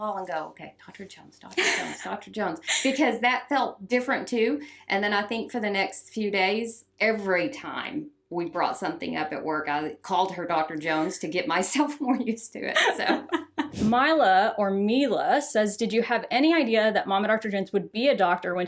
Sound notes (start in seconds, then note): 12.7 both laugh